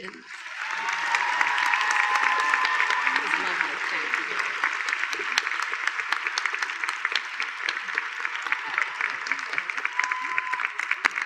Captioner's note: applause